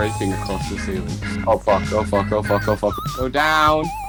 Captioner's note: sarcastically; swears a bunch